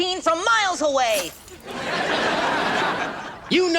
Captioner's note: audience laughs